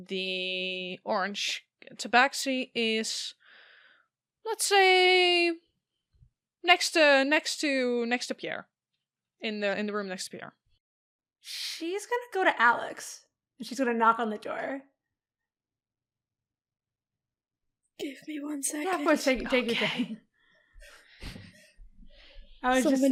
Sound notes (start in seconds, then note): 18.2 whispering